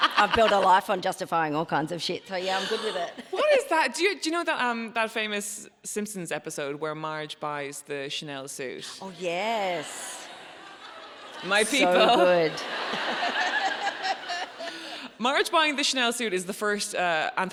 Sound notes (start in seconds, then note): 9.9 audience laughs; 13.0 audience laughing